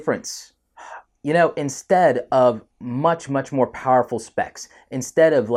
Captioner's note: sighs